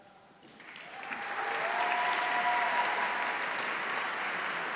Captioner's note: audience cheering